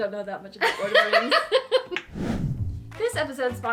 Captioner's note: laughing